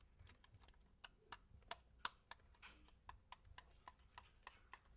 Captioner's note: plastic tapping